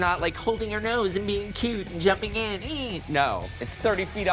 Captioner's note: exclaims